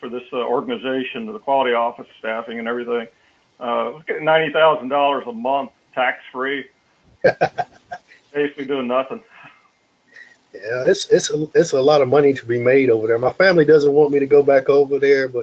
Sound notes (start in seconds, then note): 7.2 laugh